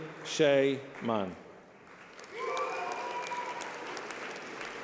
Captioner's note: applause